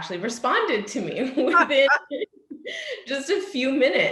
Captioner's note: all laugh